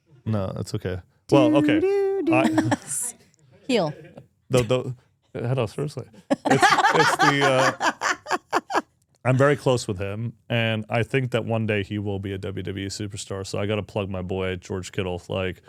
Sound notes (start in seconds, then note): 6.2 speakers laughing